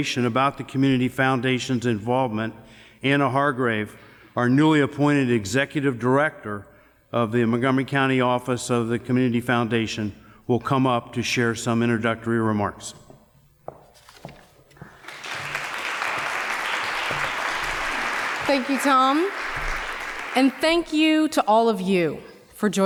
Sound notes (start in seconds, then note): 14.8 applause